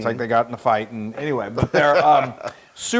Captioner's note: laugh